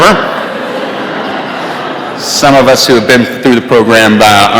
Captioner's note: laughter